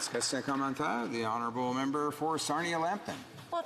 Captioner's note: some Applause